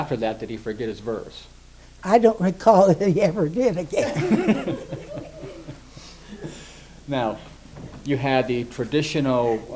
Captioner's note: both and Interviewer laugh